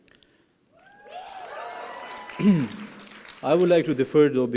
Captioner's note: applause and cheering